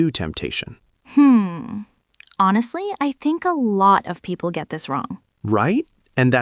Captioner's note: laughs